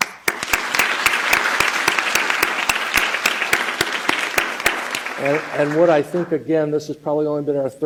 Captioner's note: applause